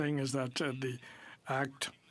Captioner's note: speaking in french